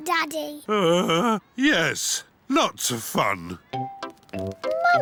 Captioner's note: groans